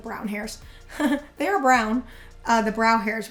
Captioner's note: laughs